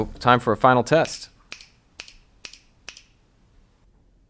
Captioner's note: snapping